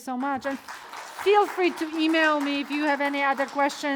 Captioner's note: audience clapping